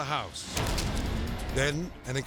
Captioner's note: flash bang grenade blasting